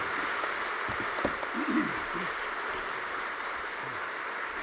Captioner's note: applause